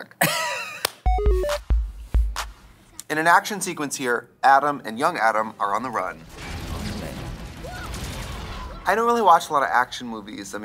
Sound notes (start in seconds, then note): 0.3 Katya laughs; 1.0 retro video game sound effects; 6.2 lasers shooting